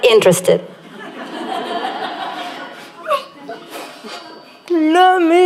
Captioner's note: laughter